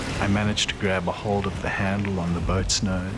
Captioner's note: voiceover